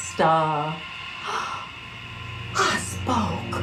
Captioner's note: Gina gasps